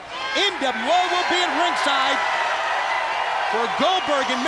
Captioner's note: crowd cheering